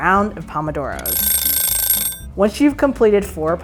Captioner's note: rings